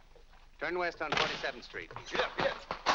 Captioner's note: door slams